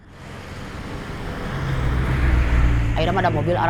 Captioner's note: the sounds of cars